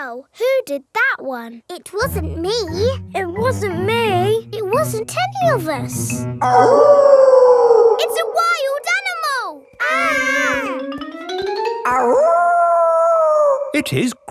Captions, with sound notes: Wow, who did that one? It wasn't me. It wasn't me. It wasn't any of us. (WOLF HOWLING LOUDLY) It's a wild animal! (KIDS YELLING) (HOWLING)